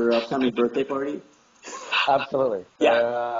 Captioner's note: laugh